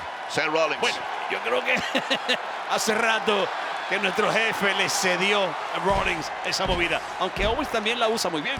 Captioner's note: laugh